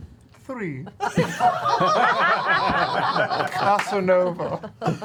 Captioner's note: laughter